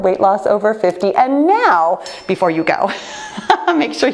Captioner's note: laughs